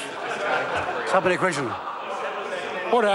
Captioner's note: members talk loudly